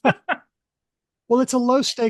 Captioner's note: laughter